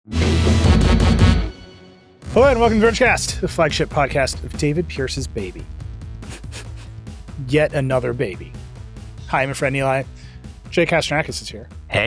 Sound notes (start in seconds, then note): 0.0 energetic music; 6.2 host chuckling